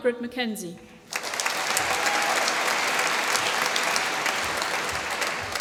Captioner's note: applause